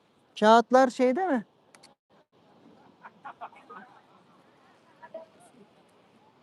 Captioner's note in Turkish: kahkaha